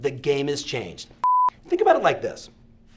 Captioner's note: computer beep